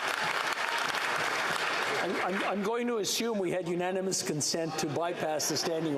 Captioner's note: applause